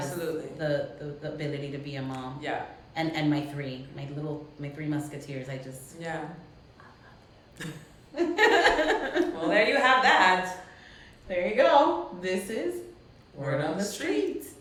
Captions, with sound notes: - Absolutely, absolutely. - The ability to be a mom. - Yeah. - And my three, my little, my three musketeers, I just, I love you. (both laugh) - Well, there you have that. There you go. This is, "Word on the Street."